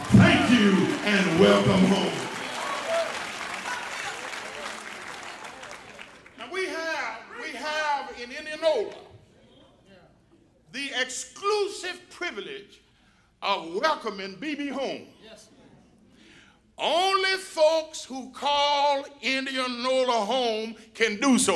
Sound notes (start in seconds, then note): 7.1 applause